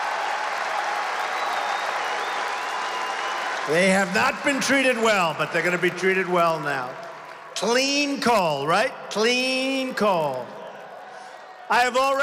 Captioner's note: applause